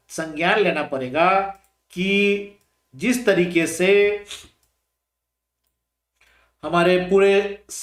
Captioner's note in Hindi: नाक से की जाने वाली आवाज़